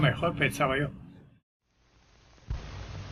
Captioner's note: silence